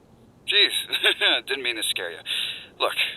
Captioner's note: chuckle